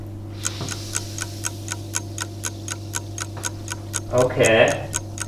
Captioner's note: clock Ticking